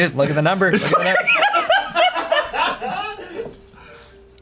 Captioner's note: everyone laughs